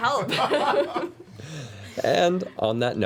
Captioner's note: laughter